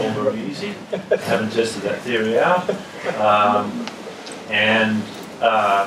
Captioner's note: laugh